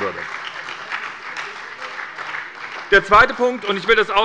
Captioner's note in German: Beifall bei der SPD